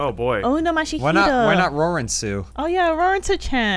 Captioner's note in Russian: японская тарабарщина